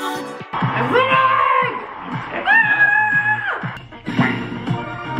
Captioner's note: screams